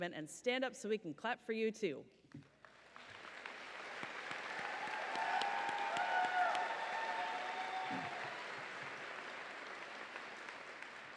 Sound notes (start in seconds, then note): 3.8 audience cheering